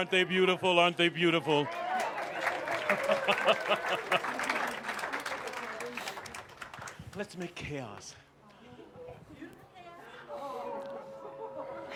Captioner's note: laughter